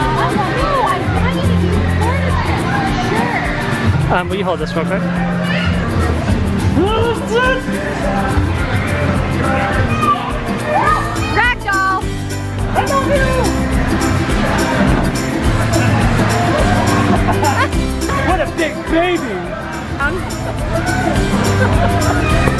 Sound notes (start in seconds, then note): 16.4 laughter